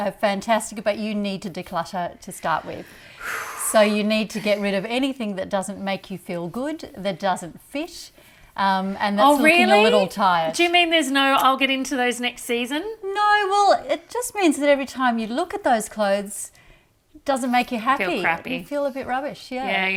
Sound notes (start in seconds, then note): 2.8 breathes out heavily